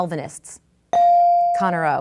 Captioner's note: bell dings